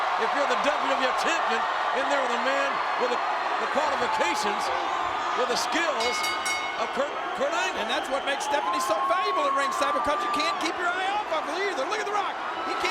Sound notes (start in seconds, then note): 6.0 bell rings